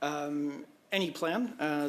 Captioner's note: speaking French